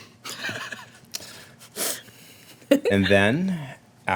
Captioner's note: laughter